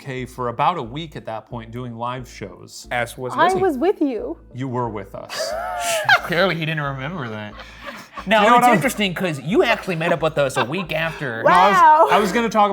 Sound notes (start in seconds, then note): 5.3 laughing; 5.3 chuckles; 9.8 laughing